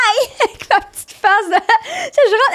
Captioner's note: in french